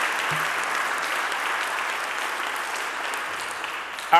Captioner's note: audience applauding